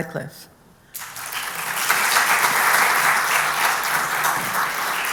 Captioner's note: applause